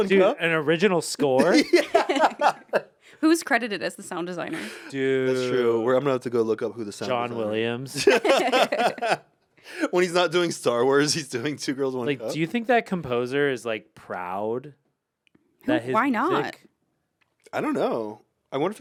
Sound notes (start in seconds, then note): 1.2 laugh; 7.9 laugh